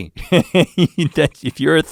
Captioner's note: laughing